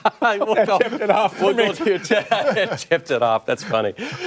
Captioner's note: laughter